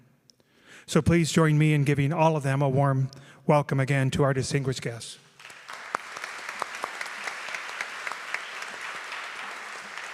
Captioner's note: applause